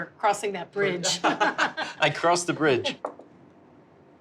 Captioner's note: laughs